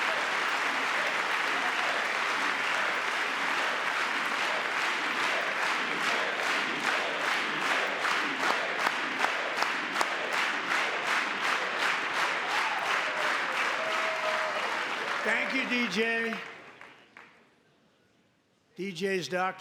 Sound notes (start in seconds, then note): 0.1 cheering; 3.1 chanting